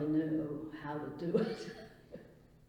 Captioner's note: laughs